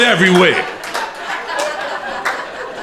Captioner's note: crowd laughing